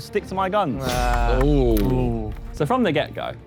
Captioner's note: Sidemen groan